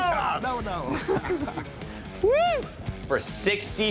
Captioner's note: laughs